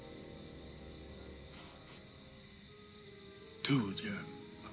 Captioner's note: sniffs